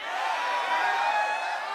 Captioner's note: crowd cheering